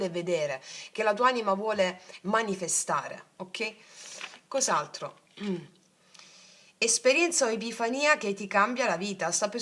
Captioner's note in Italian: schiarire la voce